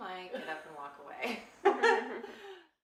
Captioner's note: laughs